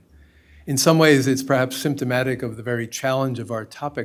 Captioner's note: none